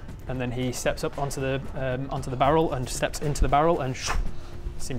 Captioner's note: szchh